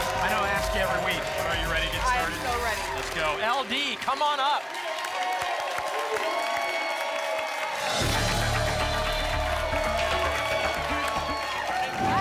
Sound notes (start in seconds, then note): 5.4 applause and cheering